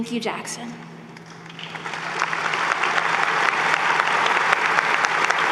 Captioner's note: applause